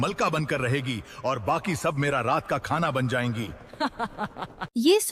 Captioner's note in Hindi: हंसी